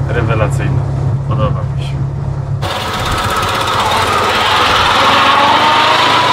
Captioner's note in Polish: dźwięk jadącego samochodu